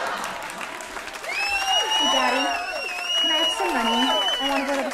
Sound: audience Laughter; Audience hoots and hollers at Tabby Kitten's arrival

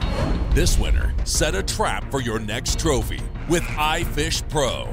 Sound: voiceover

